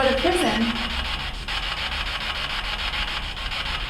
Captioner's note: static buzzing